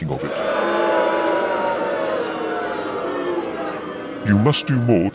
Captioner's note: booing